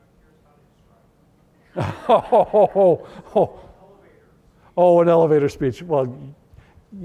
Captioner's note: laughter